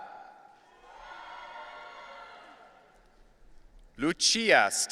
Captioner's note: audience cheering